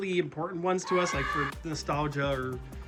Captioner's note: scream of confused, stuffie agony